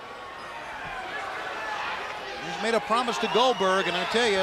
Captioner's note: crowd cheering